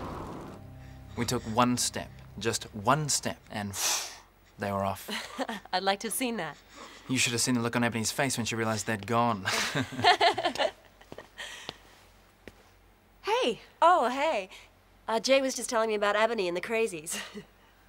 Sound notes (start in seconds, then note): 3.6 blows; 10.2 laughs